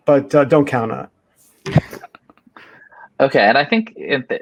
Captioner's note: laughs